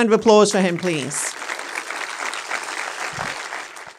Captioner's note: crowd applauds